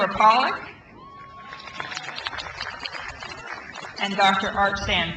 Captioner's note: crowd applauds